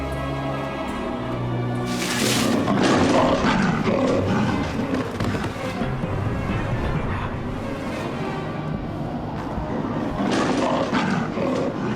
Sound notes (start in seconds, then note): 1.8 brush rustling; 2.6 growling; 10.1 snarling